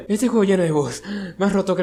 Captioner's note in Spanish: respirar